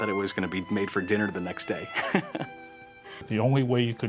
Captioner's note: laughs